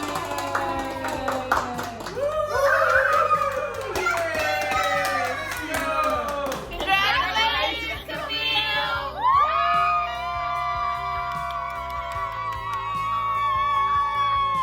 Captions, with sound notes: - Congratulations, Camille! (cheers)